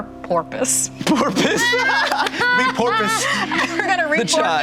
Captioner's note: group laughter